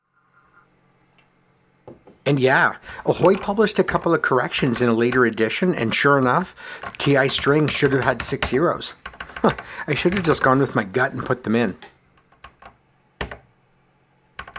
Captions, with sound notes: And yeah. Ahoy! published a couple of corrections in a later edition and sure enough, TI$ should have had six zeroes. [chuckles ]I should have just gone with my gut and put them in.